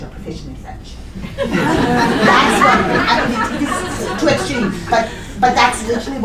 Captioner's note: laughter